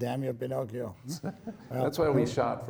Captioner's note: laughing